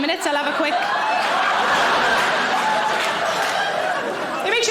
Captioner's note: audience laughing